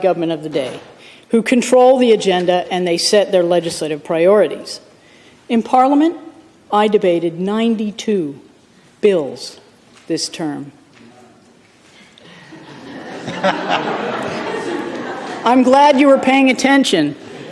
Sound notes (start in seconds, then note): 12.3 laughter